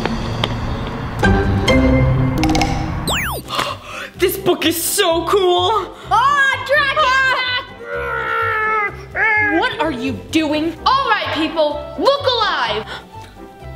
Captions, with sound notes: (gasps loudly) - This book is so cool! - Oh! Dragon attack! - Ah! - Roar! - What are you doing? - Alright people look alive!